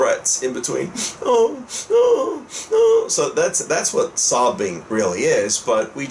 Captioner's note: more sobbing sounds